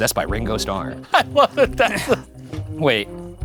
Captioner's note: laughing